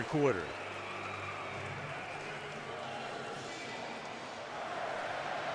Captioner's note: pa announcement; crowd screaming